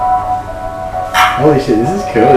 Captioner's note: phone ringing